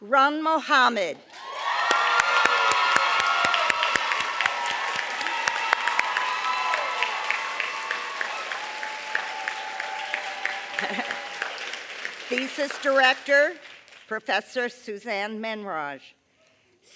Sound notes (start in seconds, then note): 2.9 applause